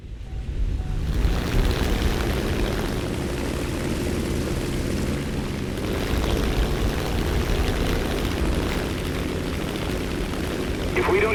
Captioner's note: aircraft Engines ,Gunfire, Flying Sounds